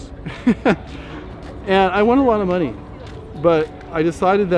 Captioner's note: laughs